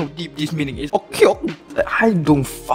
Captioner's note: goofy noises